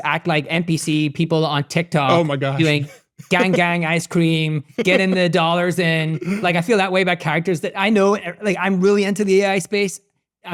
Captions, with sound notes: act like NPC people on TikTok, - Oh my gosh. (chuckles) - Doing gang gang ice cream, getting the dollars in, like, I feel that way about characters, that I know, like, I'm really into the AI space,